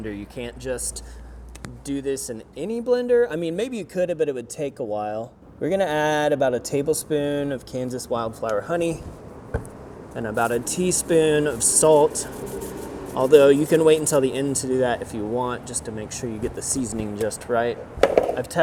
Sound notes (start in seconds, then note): 12.5 salt rustling